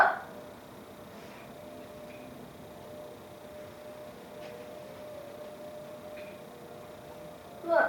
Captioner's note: siren is going off